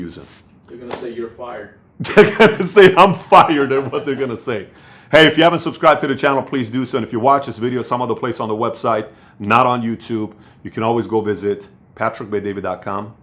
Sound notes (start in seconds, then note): 2.0 laughs